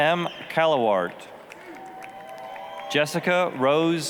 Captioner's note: applause, cheering